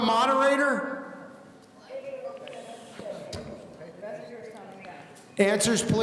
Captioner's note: people in the audience conversing